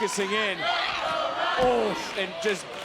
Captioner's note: audience chanting